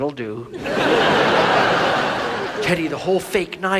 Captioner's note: audience laughs